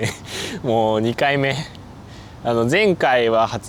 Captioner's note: laughs